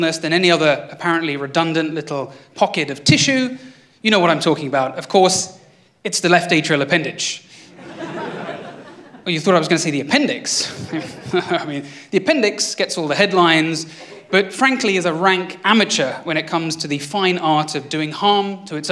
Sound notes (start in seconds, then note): 7.7 laughter